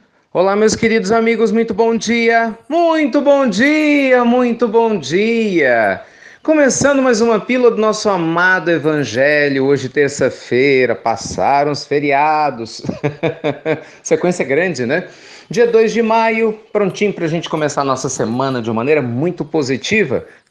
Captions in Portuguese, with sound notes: Olá, meus queridos amigos, muito bom dia! Muito bom dia, muito bom dia! Começando mais uma pílula do nosso amado Evangelho hoje, terça-feira. Passaram os feriados! (risos) Sequência grande, não é? Dia 2 de maio! Prontinho para começar nossa semana de maneira muito positiva!